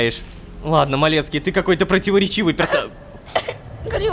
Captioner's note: hehing